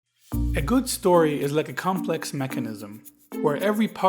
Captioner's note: voiceover